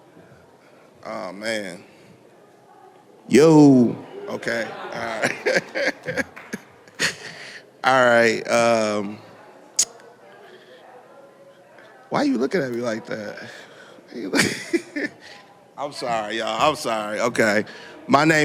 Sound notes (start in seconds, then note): 4.5 laughter